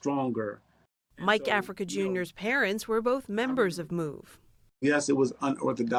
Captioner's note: voice-over